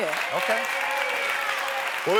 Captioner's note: audience clapping